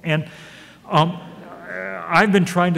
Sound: audience laughs

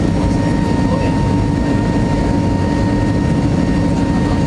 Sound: none

